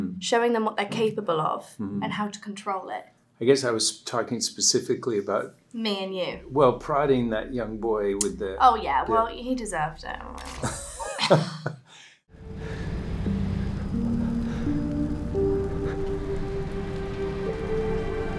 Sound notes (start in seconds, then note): 10.5 Matthew chuckles; 12.3 soft music